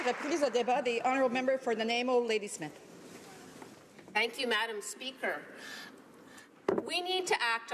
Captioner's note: applause